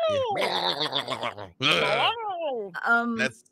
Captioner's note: neighs